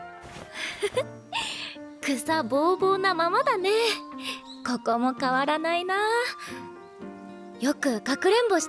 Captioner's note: laugh